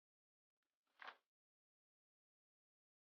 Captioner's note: none